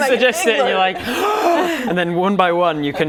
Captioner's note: gasp